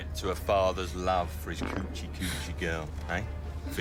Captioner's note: men farting